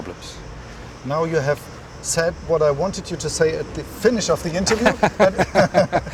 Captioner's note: laughs